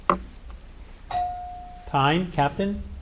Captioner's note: bell ringing